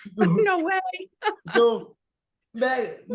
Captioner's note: laughing